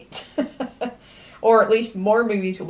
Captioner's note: laughs